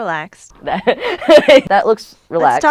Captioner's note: laughs